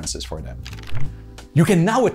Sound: pages flipping

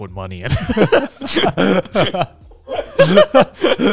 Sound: all laughing

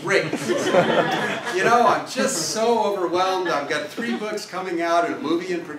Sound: laugh

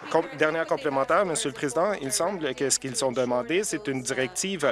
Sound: applause

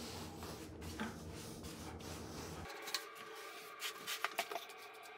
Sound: grout float sweeping

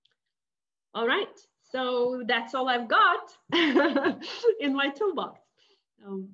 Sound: laughing

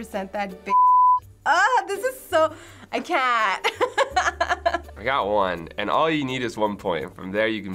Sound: laughs

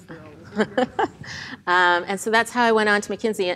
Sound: laughs

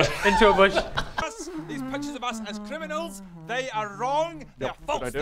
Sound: totally innocent humming

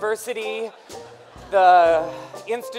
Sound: laughter

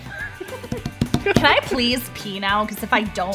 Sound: laughs

